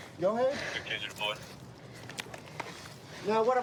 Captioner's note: radio cahtter